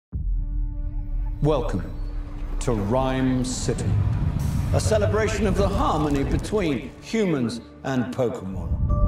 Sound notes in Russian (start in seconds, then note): 1.3 Закадровый голос